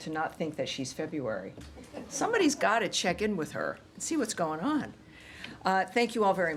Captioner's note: laughter